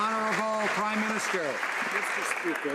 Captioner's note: some Applause